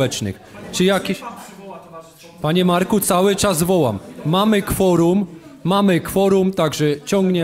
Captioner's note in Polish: głosy z sali